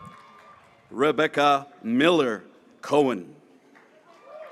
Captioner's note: graduates cheering